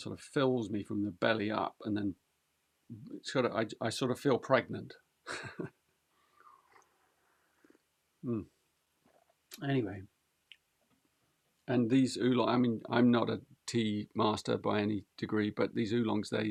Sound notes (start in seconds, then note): 5.3 laughs